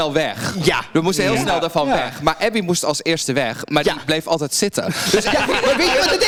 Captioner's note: queens giggle